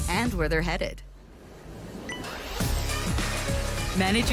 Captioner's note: phone alarm